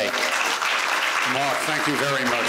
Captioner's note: applause